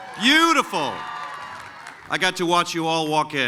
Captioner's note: cheering